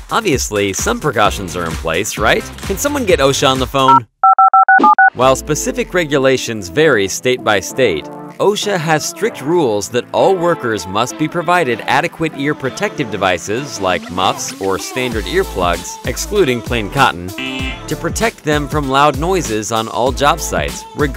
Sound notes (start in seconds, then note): 4.2 phone dialing